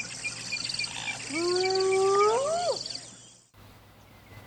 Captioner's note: howls